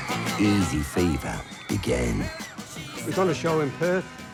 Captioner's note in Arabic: صراخ الفتيات